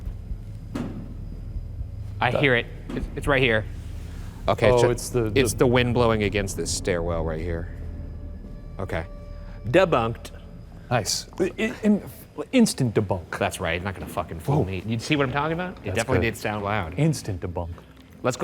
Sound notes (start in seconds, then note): 0.0 ship bangs